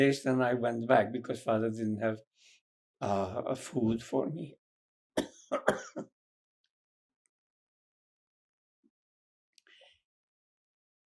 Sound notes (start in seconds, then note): 5.2 coughing; 6.2 pauses 8 seconds